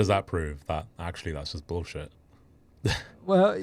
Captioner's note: laughs